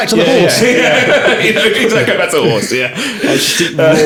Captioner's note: laughing